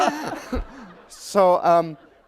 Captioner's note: laughter